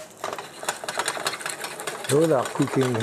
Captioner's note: pan rattling